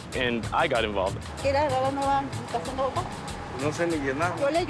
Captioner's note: speaking Spanish